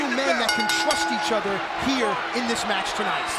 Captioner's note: bell rings